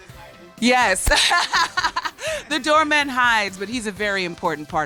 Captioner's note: laughs